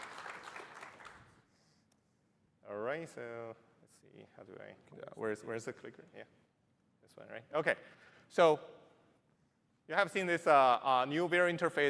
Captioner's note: applause